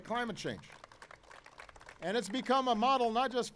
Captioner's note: applause